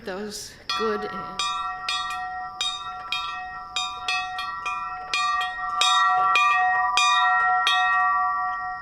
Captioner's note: bell ringing